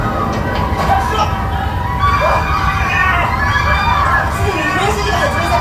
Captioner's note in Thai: ปรบมือ